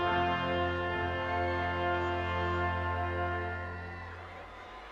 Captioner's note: audience cheering